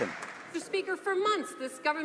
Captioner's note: some Applause